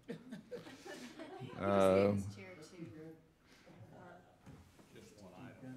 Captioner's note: overlapping talking and laughing